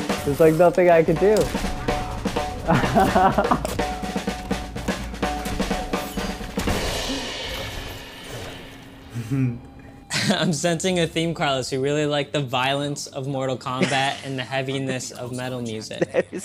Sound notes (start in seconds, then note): 2.6 chuckles